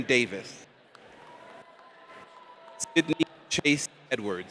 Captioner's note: audience applauds